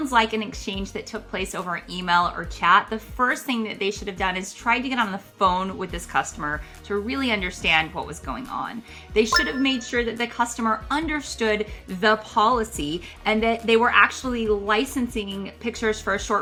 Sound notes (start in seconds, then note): 9.3 retro gaming beep sound